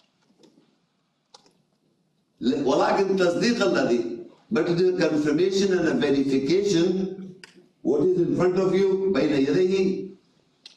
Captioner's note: reading Arabic